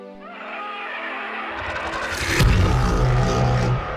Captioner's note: zombie screams